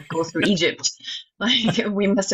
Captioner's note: laughs